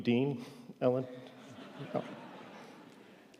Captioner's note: audience laughing